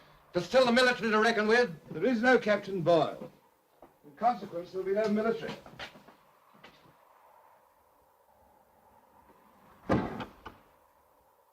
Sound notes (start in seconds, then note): 6.1 wind blows; 9.8 door shuts